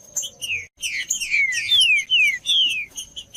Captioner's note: trinca ferro cantando